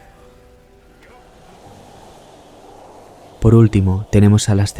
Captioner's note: wind